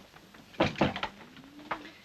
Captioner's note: door shuts